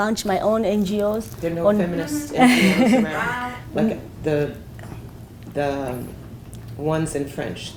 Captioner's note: laugh